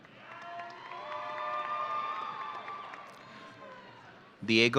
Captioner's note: audience cheering